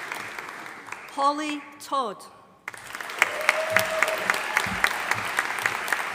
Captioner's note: audience applauding